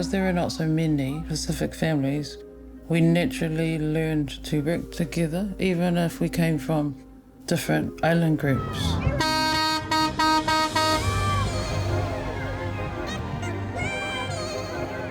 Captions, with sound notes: because there are not so many Pacific families, we naturally learned to group together, even if we came from different island groups. (car honks) (upbeat music)